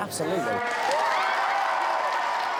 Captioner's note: all cheering